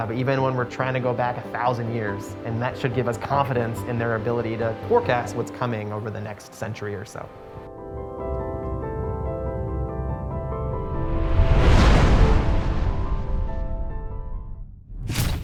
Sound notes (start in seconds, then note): 7.8 calm piano music; 11.3 wind blowing